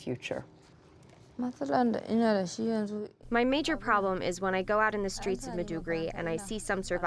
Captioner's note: through translator